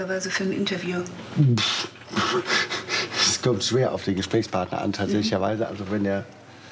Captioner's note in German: lacht